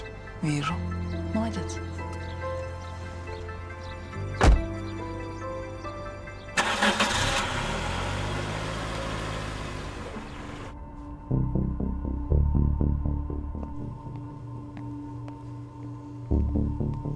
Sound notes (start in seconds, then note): 6.5 car sounds; 10.5 suspenseful music